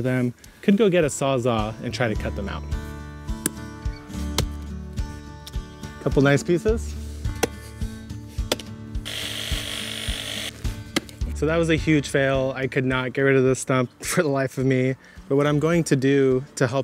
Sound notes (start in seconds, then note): 1.8 tool thumps; 6.7 country music; 7.4 tool thumps; 9.0 Sawzall whirs